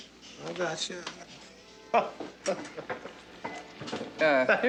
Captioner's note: Charlie laughs